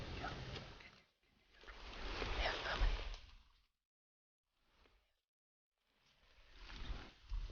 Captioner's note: whispering; whispering